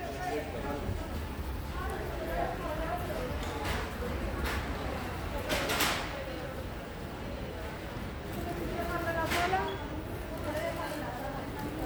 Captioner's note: indoor market noise